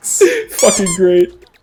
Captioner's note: continues to laugh; stammers; squeaky Toy SFX